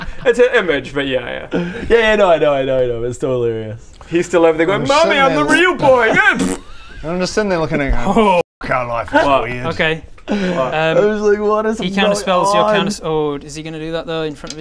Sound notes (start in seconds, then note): 6.3 bffpt